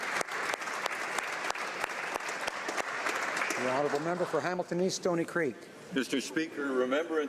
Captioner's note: applause